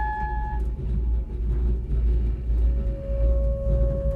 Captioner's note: gentle eerie music; cart rumbling